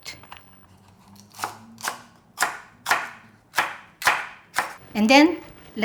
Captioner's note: knife chopping